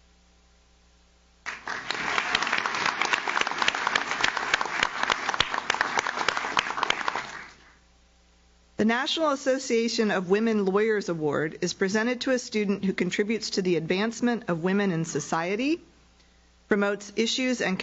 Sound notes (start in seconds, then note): 1.4 audience claps